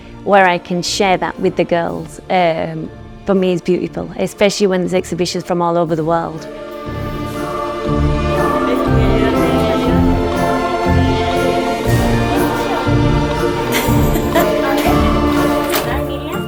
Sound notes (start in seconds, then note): 13.7 laughs